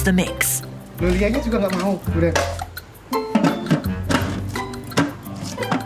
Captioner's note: in foreign language